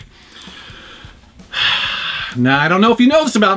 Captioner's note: sighs